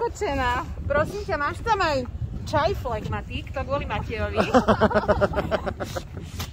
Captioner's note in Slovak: smiech